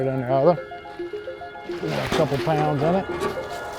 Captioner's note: water splashing